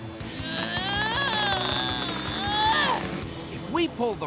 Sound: grunting

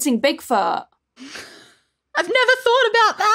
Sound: gasps

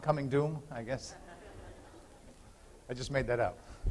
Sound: laughter

